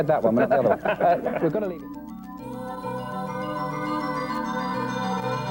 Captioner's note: laughter